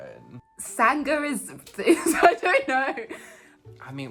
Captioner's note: laughs